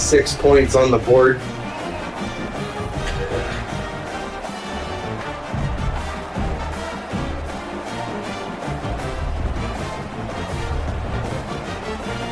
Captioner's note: crowd Noises